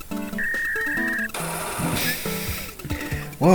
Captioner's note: dial-up tones